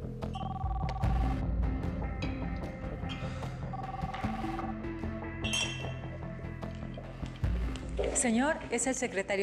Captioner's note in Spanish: suena el teléfono